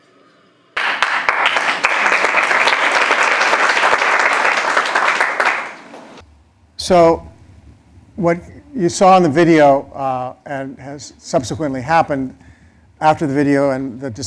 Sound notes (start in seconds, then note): 0.8 applause